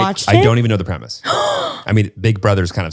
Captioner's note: sighs